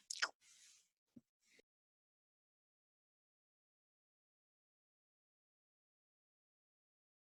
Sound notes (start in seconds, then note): 0.0 kiss; 1.2 silence